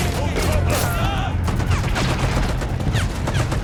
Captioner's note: gunfire continues